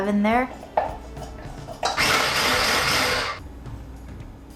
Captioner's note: rumbling sound; upbeat music